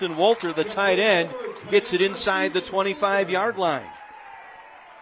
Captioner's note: applause